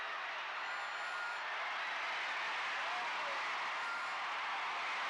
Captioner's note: crowd cheering